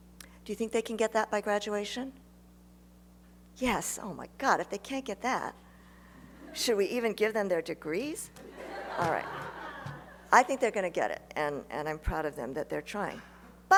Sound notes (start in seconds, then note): 6.3 laughter; 8.4 laughter